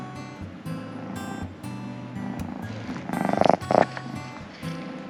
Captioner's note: soft music; cat purring